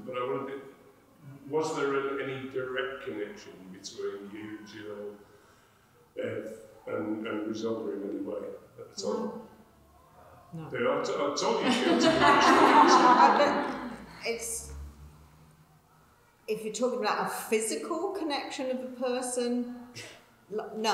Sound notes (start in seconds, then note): 11.4 people laughing